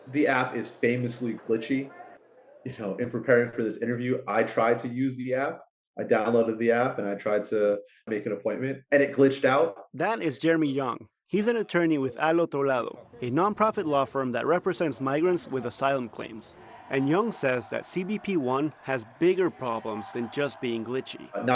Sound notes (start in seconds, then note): 10.5 voice-over